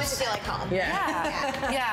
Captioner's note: laughs